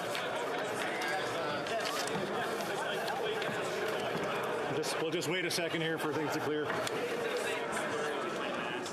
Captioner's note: crowd Noise